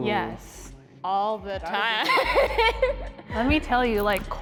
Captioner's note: laughs